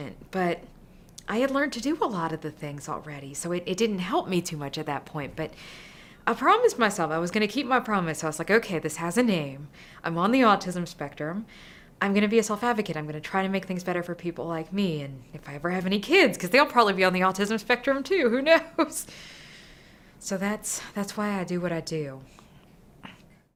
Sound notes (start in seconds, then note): 18.3 chuckles